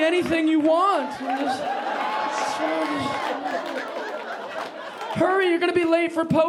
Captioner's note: audience laughing